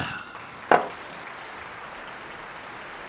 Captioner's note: clapping